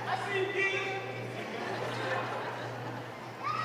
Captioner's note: laugh